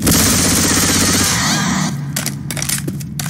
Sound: death SFX again

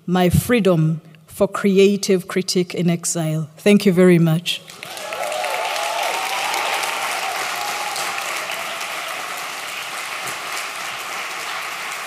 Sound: applause

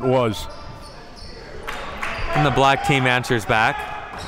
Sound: applauding

